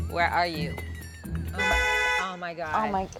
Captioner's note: honking